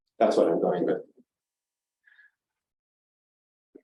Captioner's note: silence